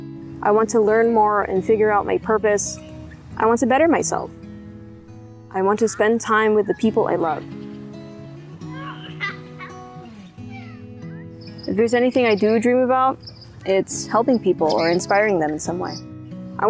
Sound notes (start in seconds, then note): 8.7 laughter in the distance